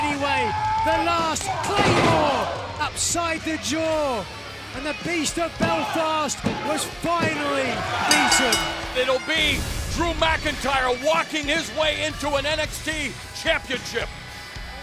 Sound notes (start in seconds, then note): 8.0 bell ringing